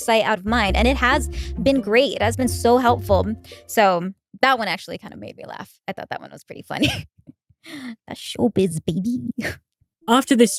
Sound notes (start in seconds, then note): 6.8 giggle